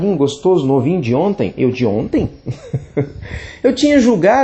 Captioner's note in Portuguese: risos